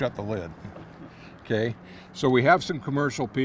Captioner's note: chuckling